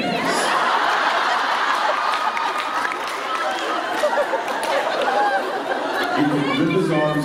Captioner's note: laughter